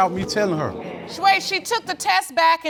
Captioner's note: audience groaning